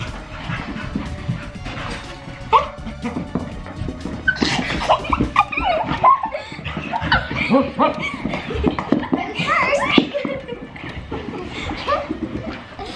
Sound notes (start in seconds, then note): 3.0 Logan barking; 5.5 kids giggling